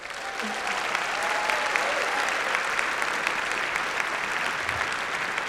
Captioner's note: applause